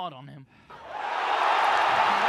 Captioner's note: applause